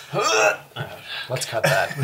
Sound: all laugh

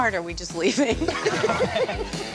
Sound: laughing

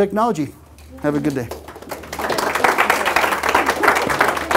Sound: applause

